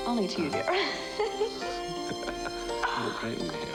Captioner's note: laughing